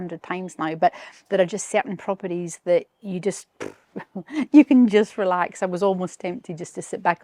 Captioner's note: laughs